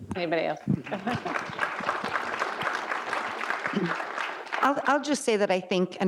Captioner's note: audience applauds